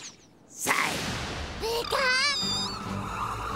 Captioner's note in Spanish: gritos